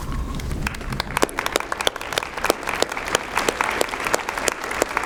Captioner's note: applause